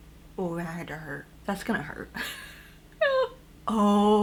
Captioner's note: laughs concernedly